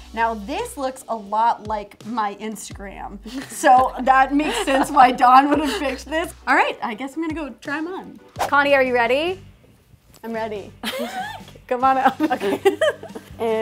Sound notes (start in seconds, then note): 12.1 laughs